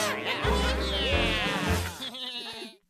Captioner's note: all chattering